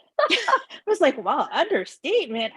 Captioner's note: both laugh